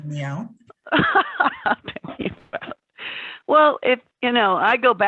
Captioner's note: chuckles